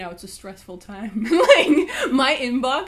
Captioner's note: laughs